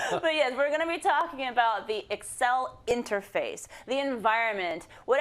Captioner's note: laugh